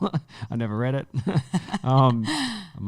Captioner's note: laughing